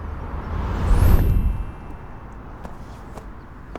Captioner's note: magic wand sound effect